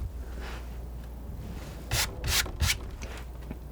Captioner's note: scratching